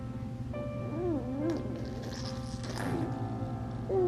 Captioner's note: baby cooing